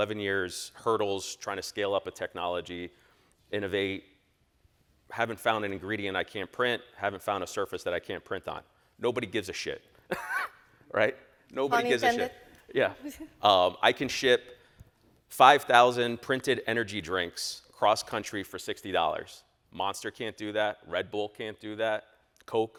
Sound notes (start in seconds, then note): 10.1 laughs